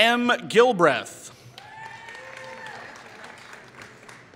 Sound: applause

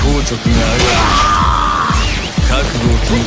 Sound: KO Scream

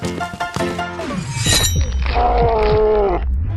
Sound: crunch!; slice!

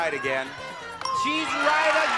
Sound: bell dings

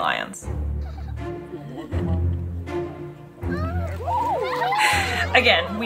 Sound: clip: people chatting and laughing at sea lion

